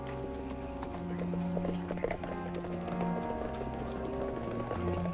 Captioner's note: distant hooves clop